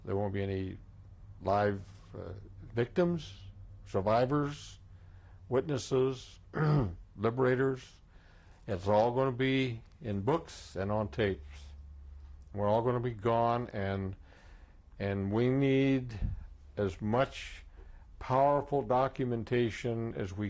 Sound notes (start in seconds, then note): 6.5 clears throat